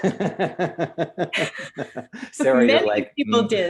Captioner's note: laughs loudly